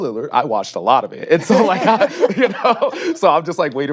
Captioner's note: laughs